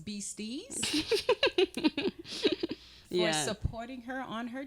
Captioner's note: giggling